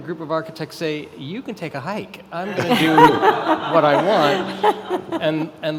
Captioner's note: all laughing